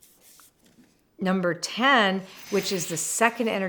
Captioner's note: frame whooshes